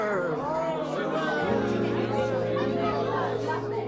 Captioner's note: guests exclaiming; lively chatter continues